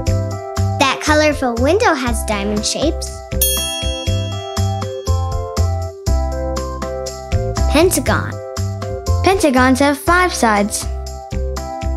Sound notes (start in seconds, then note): 3.4 bell dings